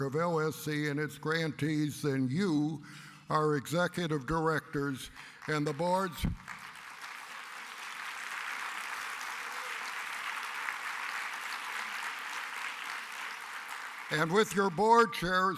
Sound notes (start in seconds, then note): 11.2 applause